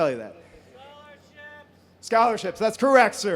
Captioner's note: voiceover